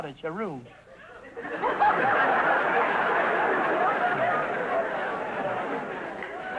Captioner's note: audience laughter